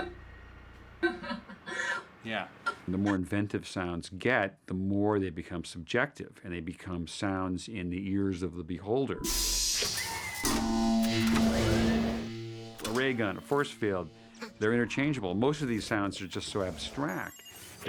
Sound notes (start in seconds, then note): 1.0 female voice laughing; 9.2 whooshing; 10.5 mechanical whirring